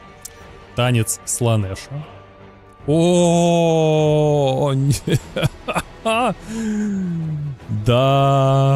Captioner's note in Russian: смех